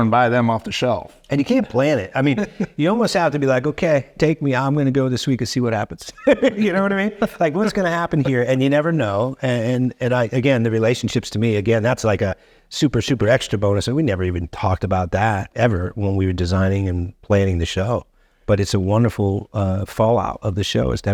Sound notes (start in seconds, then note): 2.2 chuckling; 6.0 chuckling